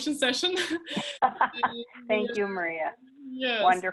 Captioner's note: laughs